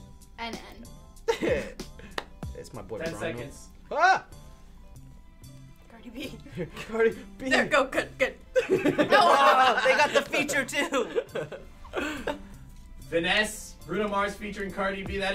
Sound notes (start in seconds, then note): 1.3 chuckles